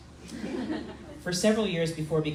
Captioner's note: crowd laughing